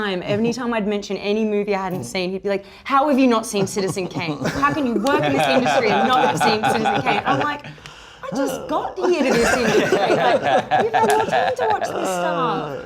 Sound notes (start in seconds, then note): 3.4 laughs